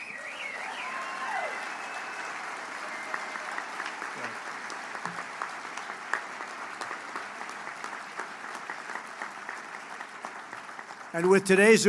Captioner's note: applause